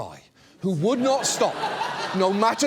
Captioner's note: studio audience laughs